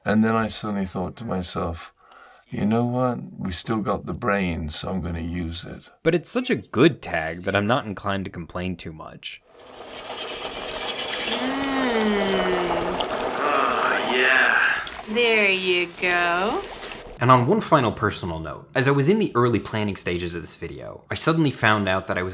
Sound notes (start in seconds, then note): 9.6 device whirring; 9.7 liquid babbling